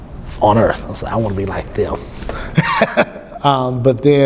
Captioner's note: laughs